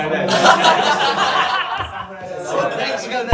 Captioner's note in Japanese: 笑い声